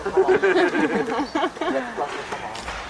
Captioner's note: laughing